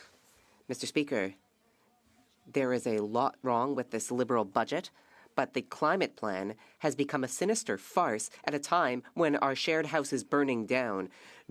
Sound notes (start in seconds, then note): 2.0 speaking French